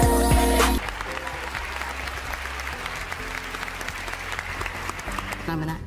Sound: clapping

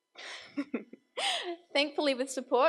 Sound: laughs

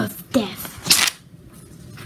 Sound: rips paper

